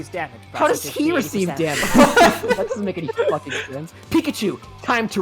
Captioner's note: multiple people laugh